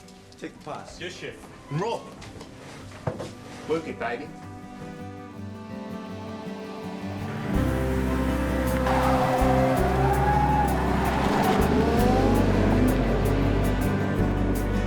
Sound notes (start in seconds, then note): 5.3 engine rumbling; 5.3 gentle music